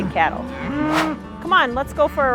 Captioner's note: cows moo